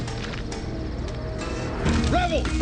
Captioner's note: twig snaps